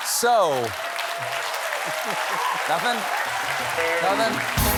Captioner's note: laughter; cheers and applause